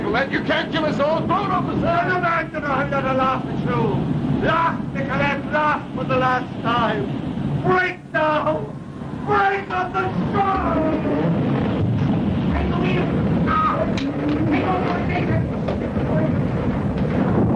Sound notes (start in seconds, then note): 12.2 commotion